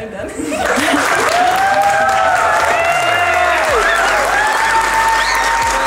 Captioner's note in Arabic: الضيوف يضحكون ويهتفون ويصفقون